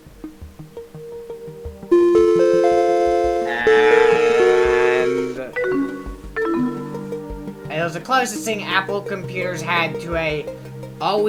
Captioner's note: Mac Quadra 900 death chime